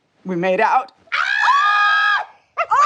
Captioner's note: deborah and ava scream with excitement